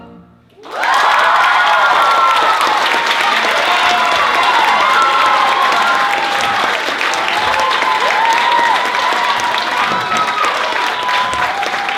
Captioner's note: applause